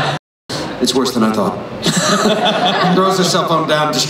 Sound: laughs

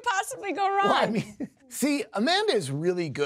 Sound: chuckling

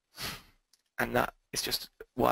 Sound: sniffles

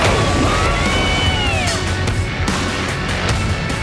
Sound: on-lookers yelling

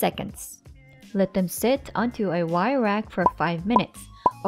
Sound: bottle pops

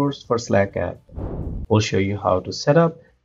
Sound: whooshing

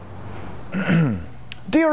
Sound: clears throat

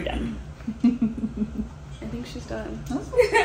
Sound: laughing

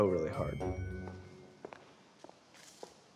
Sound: footsteps approaching

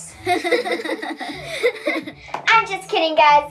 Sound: girls laughing

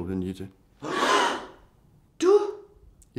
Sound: everyone gasps

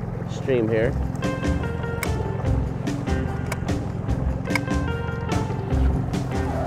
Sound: boat engine rumbling; funky surf music

